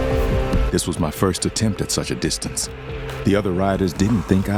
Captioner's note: voiceover